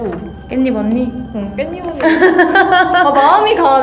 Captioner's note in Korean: 웃음